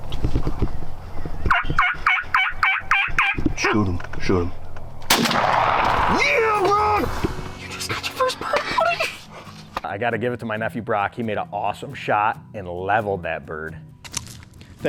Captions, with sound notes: (bird squawks) Shoot him, shoot him! (gun shot sounds) - Ya bud! - You just got your first bird, buddy! - I gotta give it to my nephew Brock. He made an awesome shot and leveled that bird.